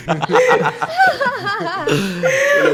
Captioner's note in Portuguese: Risos